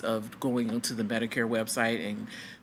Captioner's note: none